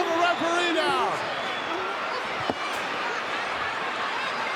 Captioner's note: crowd yelling